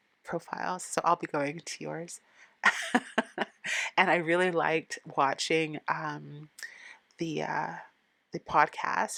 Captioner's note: laughing